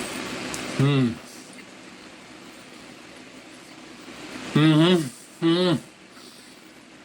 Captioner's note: water running